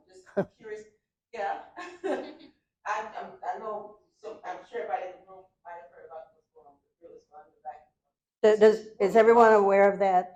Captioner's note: laughter